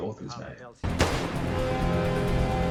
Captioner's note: gunshot